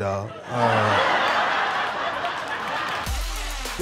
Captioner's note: laughter